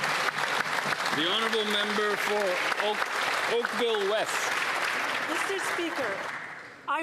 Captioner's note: applause